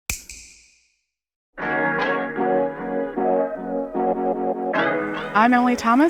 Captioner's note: snap